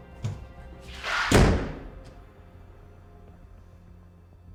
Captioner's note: soft suspenseful music; door thuds